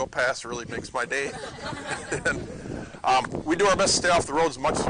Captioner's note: laughter